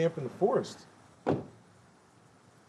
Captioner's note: car door slams